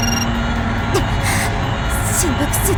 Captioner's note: gasp